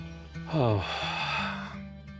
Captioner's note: sighs